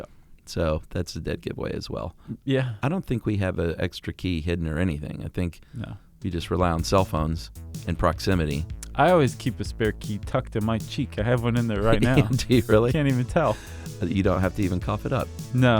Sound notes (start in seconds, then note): 6.8 synth music; 11.7 laughs